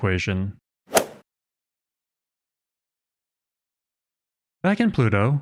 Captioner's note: golf ball hit sound effect